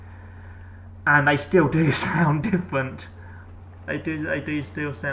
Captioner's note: laugh